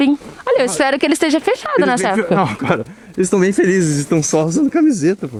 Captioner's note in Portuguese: risadas